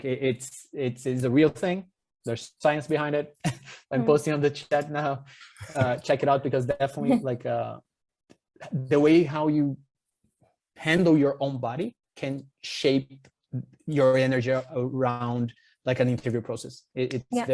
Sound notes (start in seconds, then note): 5.5 chuckles; 7.3 chuckles